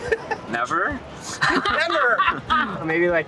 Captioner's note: laughing